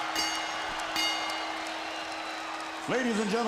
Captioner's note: bell ringing; crowd cheering